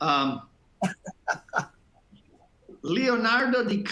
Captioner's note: laughter